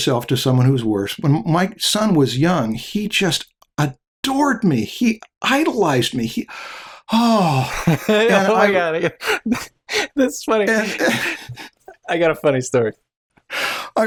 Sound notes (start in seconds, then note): 10.6 laughter